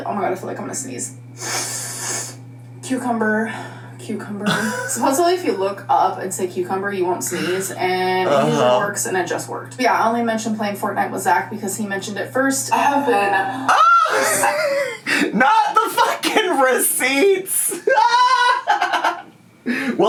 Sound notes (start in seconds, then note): 14.1 laughs; 19.0 laughs